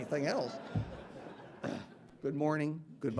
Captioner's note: audience laughing